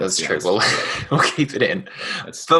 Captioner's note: chuckles